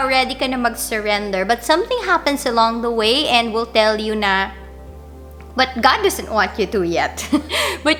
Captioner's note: laugh